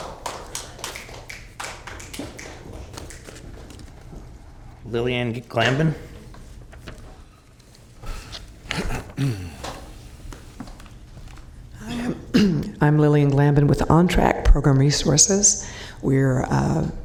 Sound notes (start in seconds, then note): 3.9 applause